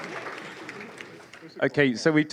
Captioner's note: applause